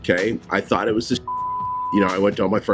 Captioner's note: beep